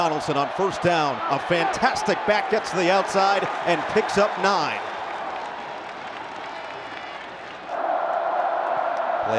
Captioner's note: crowd noise